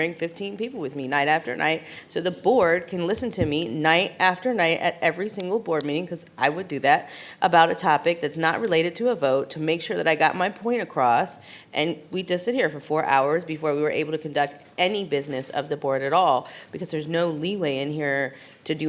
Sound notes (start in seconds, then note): none